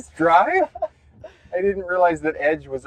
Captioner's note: both chuckles